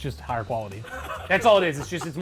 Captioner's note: laughs